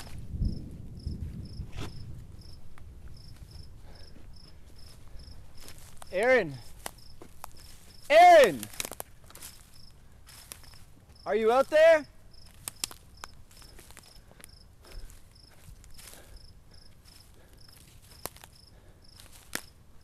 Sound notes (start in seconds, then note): 0.1 thunder rolls; 3.0 insects buzzing; 10.8 underbrush crunching; 14.2 underbrush crunching; 14.7 staggered breathing